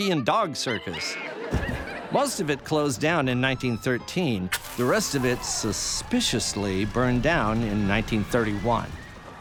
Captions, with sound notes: and Dog Circus [monkey screeching, laughter]. Most of it closed down in 1913, the rest of it suspiciously burned down in 1931 [cheering].